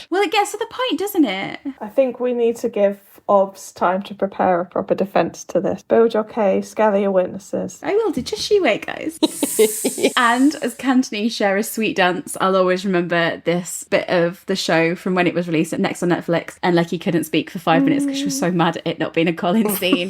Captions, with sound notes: - Well, it gets to the point, doesn't it? - I think we need to give Obvs time to prepare a proper defense to this. Build your case, gather your witnesses. - I will, just you wait, guys. (laughs) (snake hisses) And as Kanthony share a sweet dance, I'll always remember this bit of the show from when it was released next on Netflix and Lechi couldn't speak for five minutes because she was so mad at it not being a Colin scene.